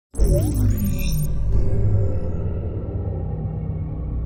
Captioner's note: dramatic intro sound